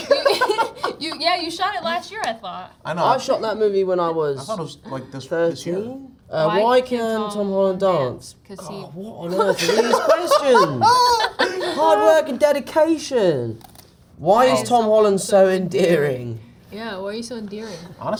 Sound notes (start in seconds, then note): 0.0 laughs; 9.3 Zendaya and Jacob laughing; 9.4 sighs